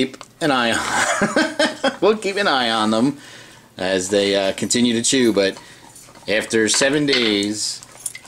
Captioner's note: laughing